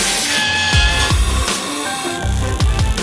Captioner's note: air blowing noise; metal cutting noise; dental suction noises; buzzing noise